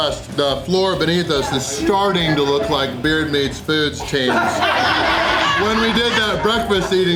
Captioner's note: crowd laughter